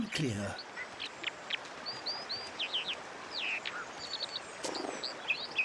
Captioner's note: elaborate chirping and singing